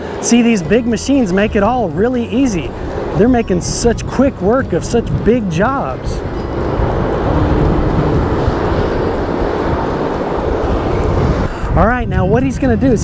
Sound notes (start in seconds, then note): 6.4 machine whirring; 6.4 twangy upbeat music